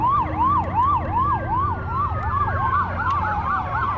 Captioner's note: sirens wailing